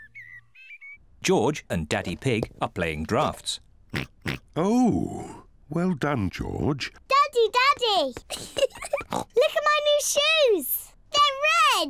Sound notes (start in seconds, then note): 3.9 oinks; 8.2 laughs; 9.1 oinks